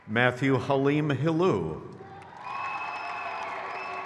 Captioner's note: crowd cheers